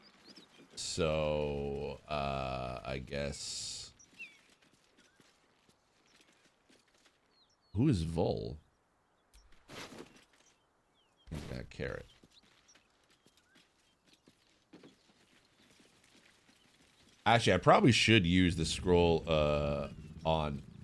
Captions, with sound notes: So... Uh... I guess... Who is Vol? Carrot. (Birds Chirping) Actually, I probably should use the scroll, uh... on...